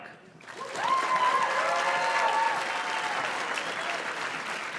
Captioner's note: audience cheers and claps